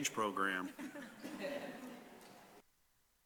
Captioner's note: laughter